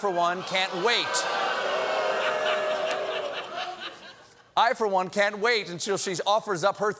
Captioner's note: booing